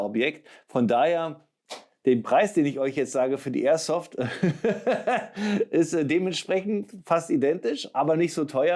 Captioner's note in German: gelächter